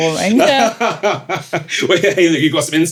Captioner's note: laughing